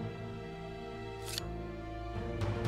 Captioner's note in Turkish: Hançer sesi